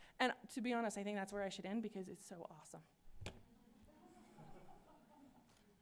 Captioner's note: laughter